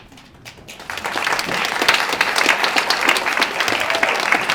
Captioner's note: applause